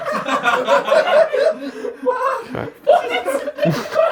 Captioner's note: audience laughs; laughs